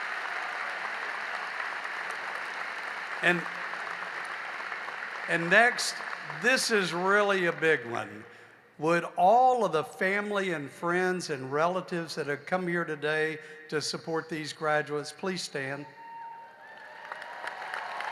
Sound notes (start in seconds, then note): 2.7 applause